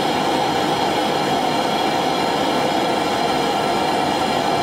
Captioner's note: machine noise